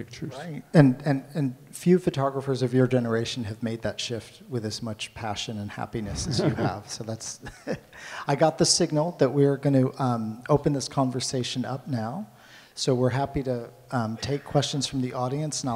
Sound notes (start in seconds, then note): 6.0 laughs